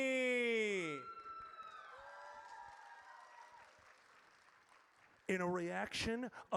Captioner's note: audience cheers